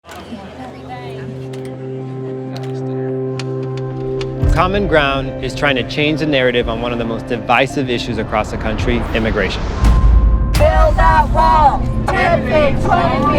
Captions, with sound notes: (chatter of people) - Common Ground is trying to change the narrative on one of the most divisive issues across the country, immigration. - Build a wall, 10 feet, 20 feet, 100 feet tall.